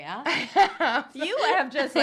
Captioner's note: laughs